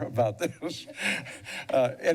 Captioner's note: laughing